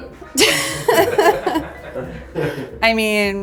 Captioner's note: everyone laughs